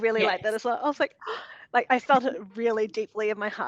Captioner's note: gasps